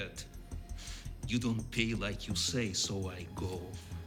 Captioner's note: none